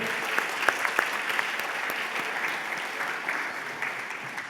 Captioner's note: applause